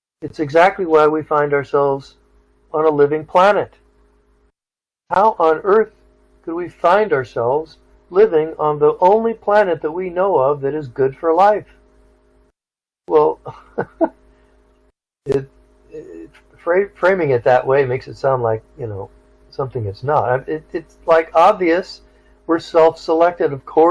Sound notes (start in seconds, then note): 13.4 chuckle